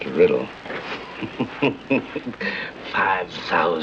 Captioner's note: laughing